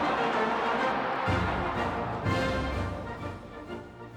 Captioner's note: crowd cheering